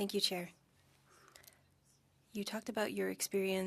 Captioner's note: speaking French